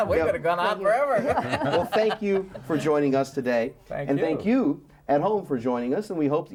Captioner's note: laughing